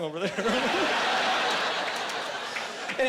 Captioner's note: laughing